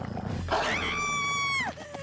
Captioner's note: Courtney Screaming